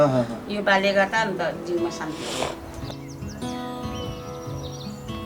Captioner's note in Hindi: नाक से की जाने वाली आवाज़